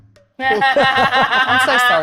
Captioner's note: cackling